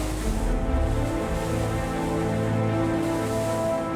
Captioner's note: water splashing